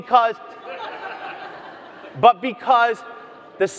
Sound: audience laughs

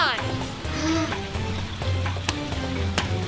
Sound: groan

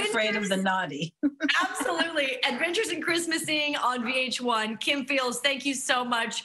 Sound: laughing

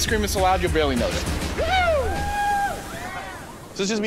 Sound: men cheering

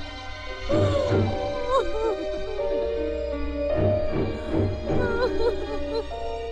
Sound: wailing

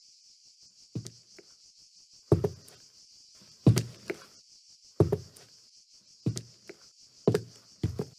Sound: footsteps

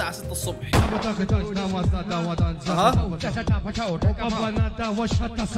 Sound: foreign language

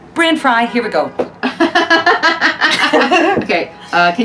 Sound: laughing

